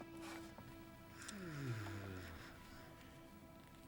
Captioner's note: sighs